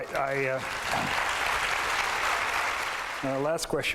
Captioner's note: applause